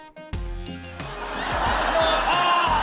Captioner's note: laughter